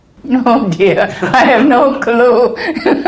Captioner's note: laugh